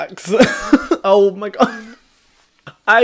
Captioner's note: laughs